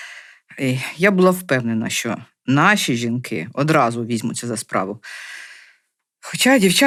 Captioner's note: Ukrainian